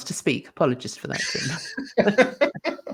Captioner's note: laughing